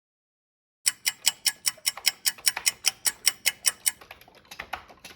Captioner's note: ticking clock